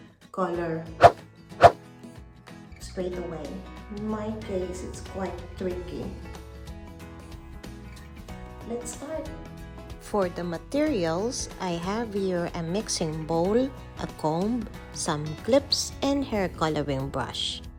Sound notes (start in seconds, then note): 1.0 swish, swish